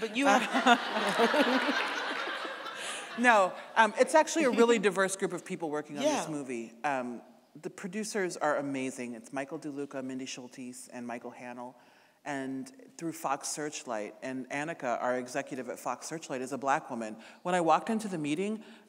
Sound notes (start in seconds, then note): 0.0 audience laughing